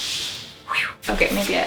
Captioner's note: whew